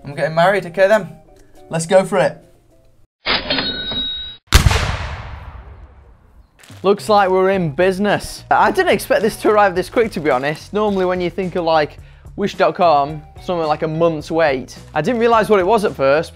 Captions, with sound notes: I'm getting married, okay then, let's go for it. (till ringing) Looks like we're in business. I didn't expect this to arrive this quick, to be honest. Normally when you think of like Wish.com, something like a month's wait. I didn't realise what it was at first